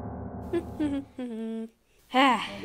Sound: humming

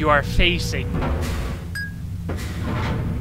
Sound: ding

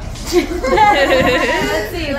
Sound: happy giggles from everyone in the room!

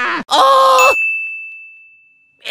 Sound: ding

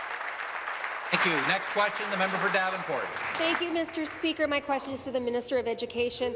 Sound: applause

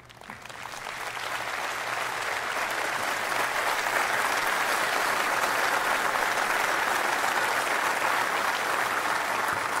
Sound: applause

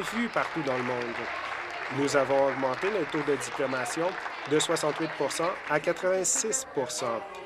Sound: applause

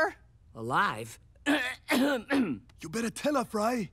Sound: coughs

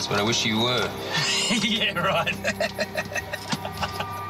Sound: laughing

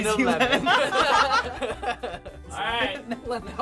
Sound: all laugh

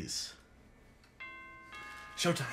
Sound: doorbell rings

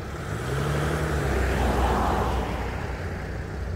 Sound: engine sounds

